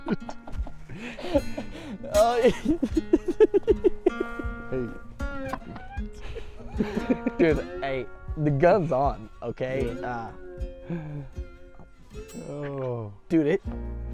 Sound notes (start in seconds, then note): 0.2 laughing; 5.1 laughing